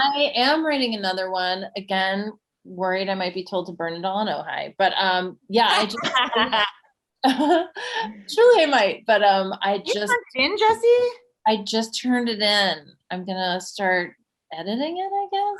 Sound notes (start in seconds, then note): 5.7 Casey laughing